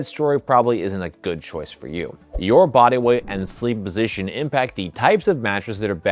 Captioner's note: screen whooshing